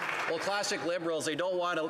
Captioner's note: applause